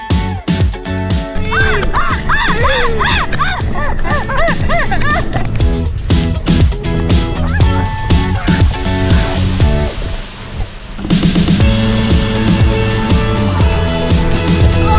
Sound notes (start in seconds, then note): 1.4 screams